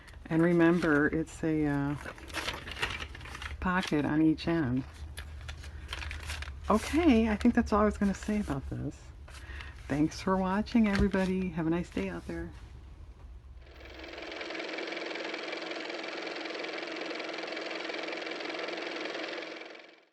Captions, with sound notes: and remember it's a pocket on each end okay I think that's all I was going to say about this thanks for watching, everybody have a nice day out there (car motor)